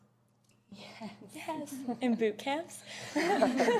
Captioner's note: laughter